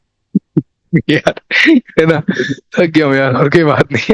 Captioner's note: laughs